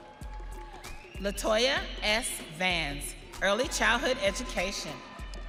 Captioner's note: audience cheering